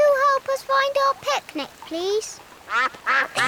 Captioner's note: giggles; quacks